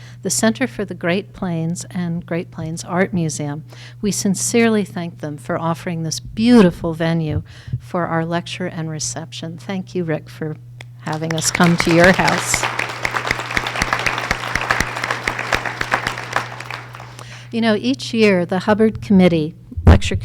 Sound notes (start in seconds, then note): 12.6 audience applause